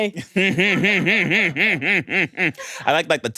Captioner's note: everyone laughs